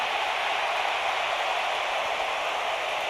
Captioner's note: crowd roars